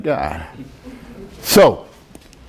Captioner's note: students chuckle